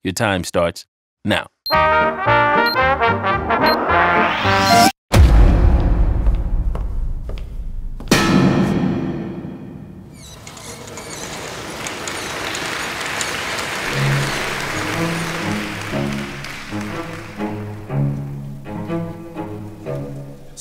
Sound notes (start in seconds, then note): 5.1 thud; 5.7 echoing footsteps; 7.8 echoing thud; 10.2 curtains squeaking, audience applause